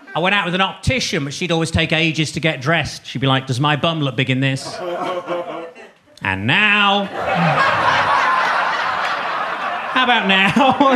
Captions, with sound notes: I went out with an optician, but she'd always take ages to get dressed. She'd be like, "Does my bum look big in this?" "And now?" (audience laughing) "How about now?"